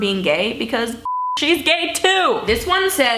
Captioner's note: beep